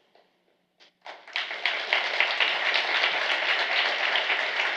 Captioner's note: applause